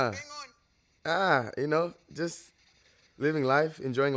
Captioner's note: speaking in foreign language